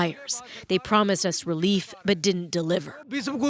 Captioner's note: speaking alternate language